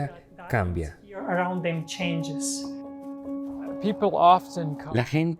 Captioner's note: Hablando idioma extranjero